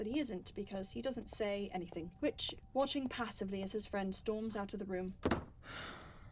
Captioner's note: door slams; Regulus sighs